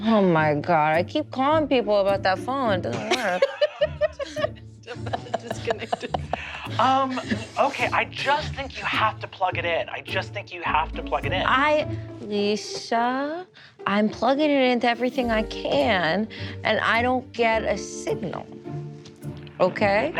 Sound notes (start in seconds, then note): 4.8 players giggling